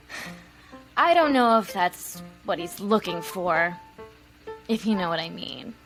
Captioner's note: sighs